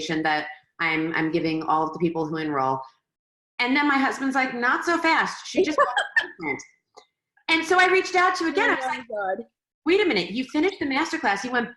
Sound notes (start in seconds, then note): 5.6 laughing